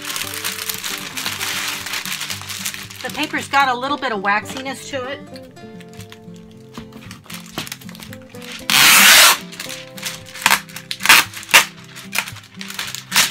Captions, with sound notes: The paper's got a little bit of waxiness to it. (calm music) (paper rustling)